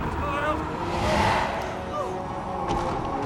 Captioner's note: shouts